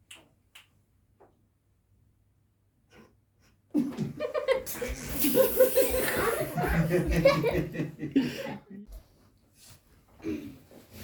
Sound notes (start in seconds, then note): 0.5 snaps fingers; 3.9 audience laughs